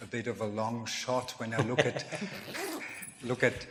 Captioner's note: laughs